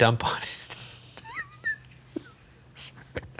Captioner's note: laughs